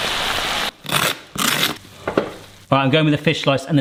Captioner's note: sizzling; knife scraping